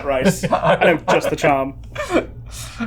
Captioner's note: laughing